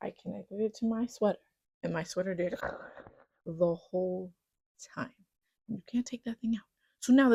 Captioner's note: fuzzy noise